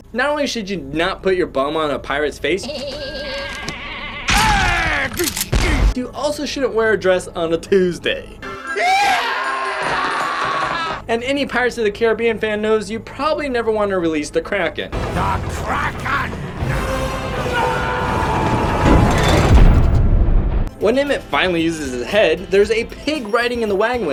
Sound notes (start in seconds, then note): 8.6 man screams